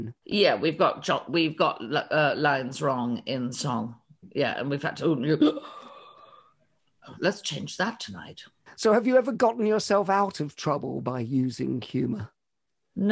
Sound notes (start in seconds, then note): 5.5 sighs